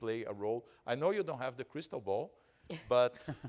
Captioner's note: laughing